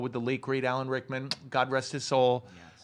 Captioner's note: makes kissing noise